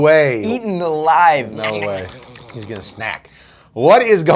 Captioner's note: chewing